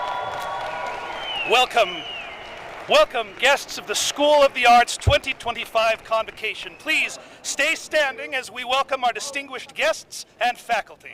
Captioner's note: cheering